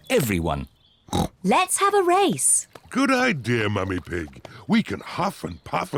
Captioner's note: snorts